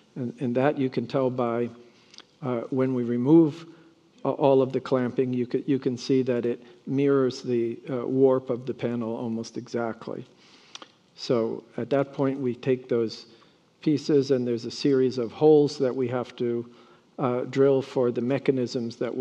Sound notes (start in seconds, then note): none